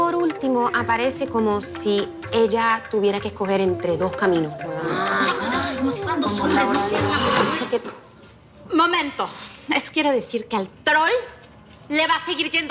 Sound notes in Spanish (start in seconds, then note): 4.5 Exclamaciones; 8.6 Hablan al unísono